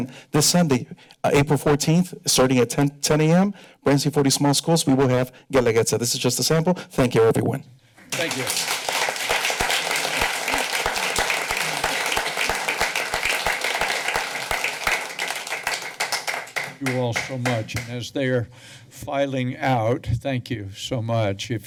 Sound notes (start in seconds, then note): 8.0 applause